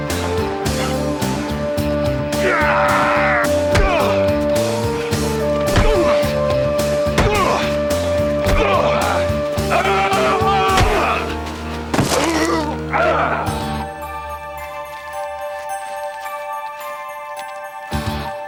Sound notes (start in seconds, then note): 9.5 yellin; 11.9 gruntin